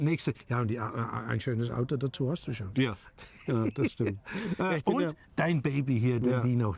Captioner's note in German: gelächter